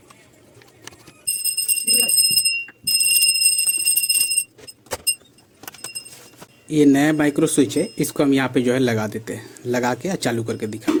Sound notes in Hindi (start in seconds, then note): 3.7 घंटी की आवाज़